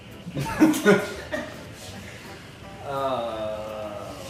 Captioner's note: laughing